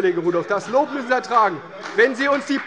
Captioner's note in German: Beifall bei der CDU und dem BÜNDNIS 90/DIE GRÜNEN